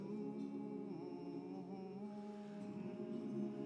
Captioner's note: humming